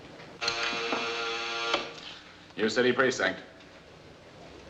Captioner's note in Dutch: zoemen